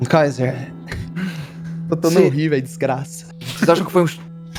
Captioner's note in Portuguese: risadas